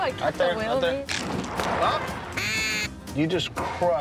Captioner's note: chatter; duck crunches; blows duck call